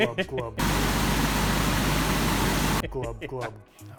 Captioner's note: water flowing